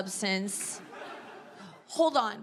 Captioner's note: audience laughs